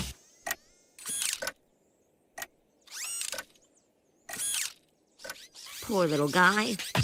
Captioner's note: ticking